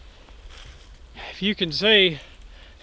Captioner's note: breathing heavily